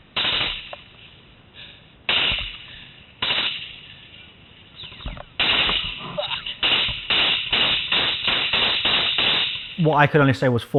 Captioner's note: gunfire